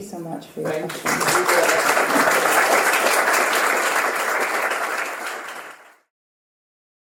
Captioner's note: applause